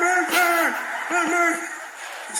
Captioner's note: laughter